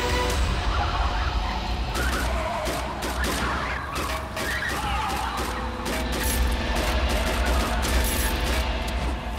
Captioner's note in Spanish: Disparos